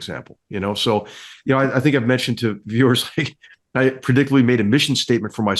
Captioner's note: laugh